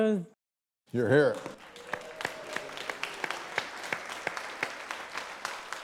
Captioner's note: audience applauding